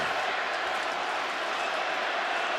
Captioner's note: crowd roars